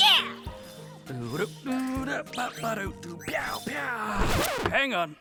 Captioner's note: Molly's dad humming